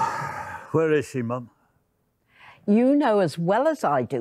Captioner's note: sighing